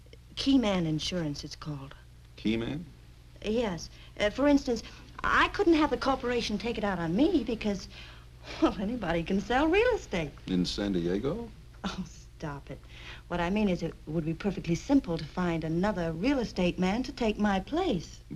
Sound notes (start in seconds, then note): 8.4 chuckles; 12.0 chuckles